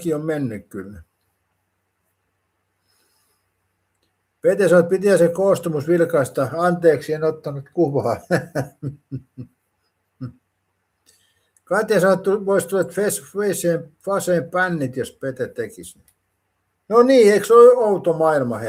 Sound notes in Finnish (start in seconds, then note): 7.9 naurua